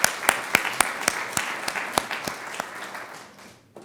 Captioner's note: crowd applauds